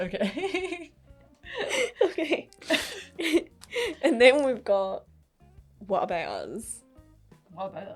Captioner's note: laughing